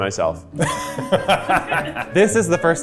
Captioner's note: laughs